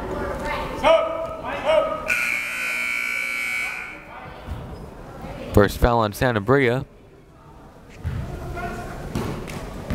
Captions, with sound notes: (buzzer) First foul on Sanabria.